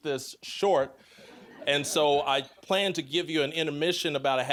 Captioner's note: audience laughing